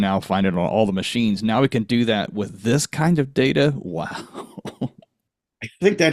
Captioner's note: chuckles